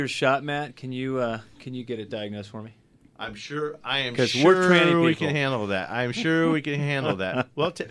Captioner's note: laughs